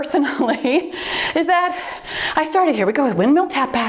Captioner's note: timer beeps